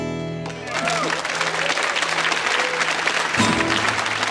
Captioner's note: audience applauds; punchy acoustic guitar music